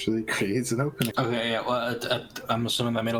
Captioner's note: stammering